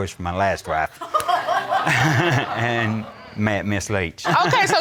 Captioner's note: crowd laughing